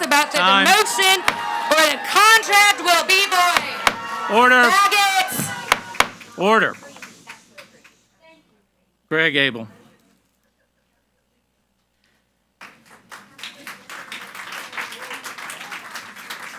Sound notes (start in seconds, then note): 5.5 gavel bangs; 13.4 audience applauds